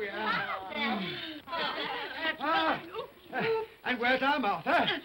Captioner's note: giggling